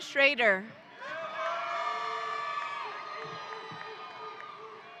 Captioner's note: audience cheering